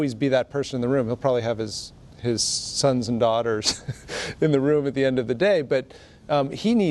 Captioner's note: laughs